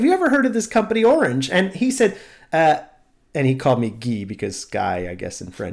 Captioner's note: french accent